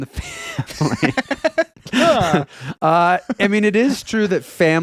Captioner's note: laughing